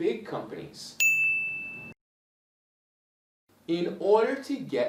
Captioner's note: bell rings